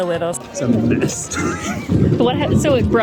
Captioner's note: laughs